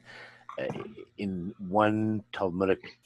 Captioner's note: Hebrew